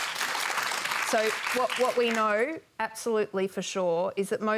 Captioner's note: applause